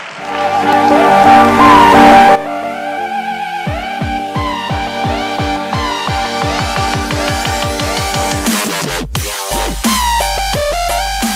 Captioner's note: applause